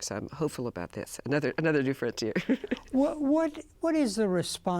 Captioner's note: laughs